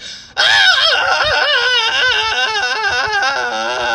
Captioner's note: loud screaming